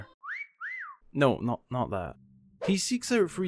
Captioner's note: whistle